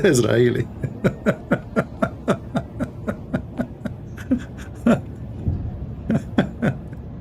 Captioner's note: Ketawa